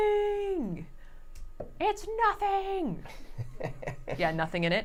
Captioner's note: laughs